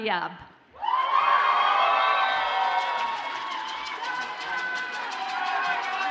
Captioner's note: audience cheers and applauds